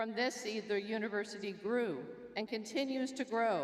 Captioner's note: none